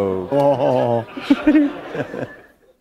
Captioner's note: laughter